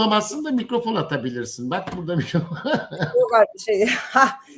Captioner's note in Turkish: kahkaha